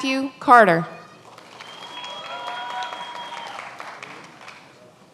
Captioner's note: many applauding